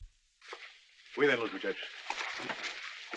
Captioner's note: in spanish